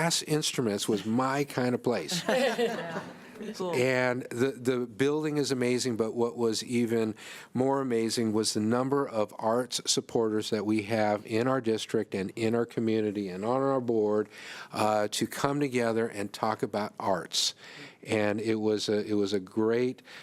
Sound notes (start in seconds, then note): 2.0 laughter